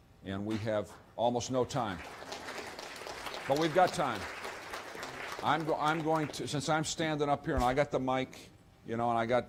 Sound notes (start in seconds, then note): 1.8 applause